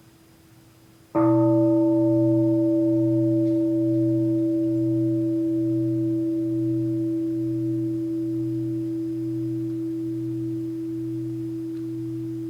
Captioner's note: the bell is invited to sound